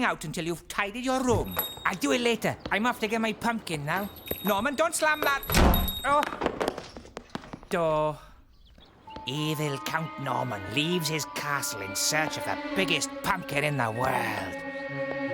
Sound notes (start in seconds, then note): 5.2 door Slams; 6.8 clattering